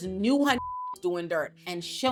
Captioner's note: beep